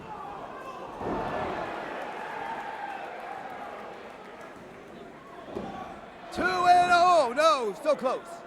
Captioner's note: crowd cheering